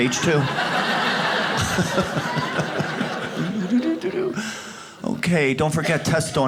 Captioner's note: audience laughs